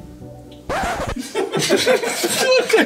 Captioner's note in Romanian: zgomot de vinil